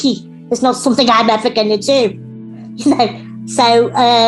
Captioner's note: chuckles